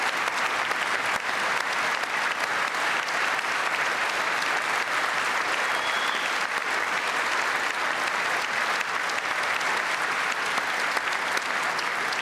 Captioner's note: cheers and applause